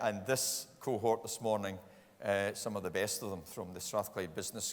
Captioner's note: none